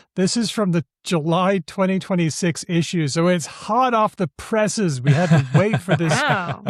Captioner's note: laughs